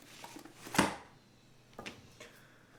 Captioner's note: book opens and he pages thru